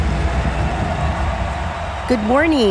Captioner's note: crowd cheering